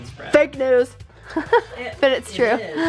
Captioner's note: laughs